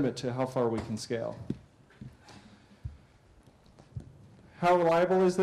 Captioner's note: pause